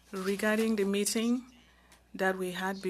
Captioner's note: speaking French